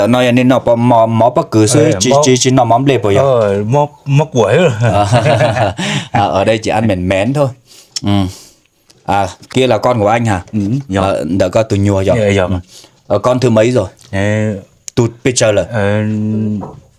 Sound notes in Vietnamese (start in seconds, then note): 4.4 tiếng cười; 7.6 khịt mũi